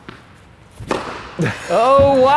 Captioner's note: racket hitting the ball; chuckles